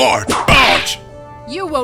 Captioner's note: whip crack!